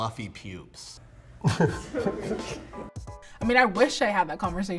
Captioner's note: laughing